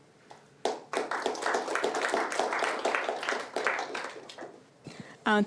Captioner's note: applause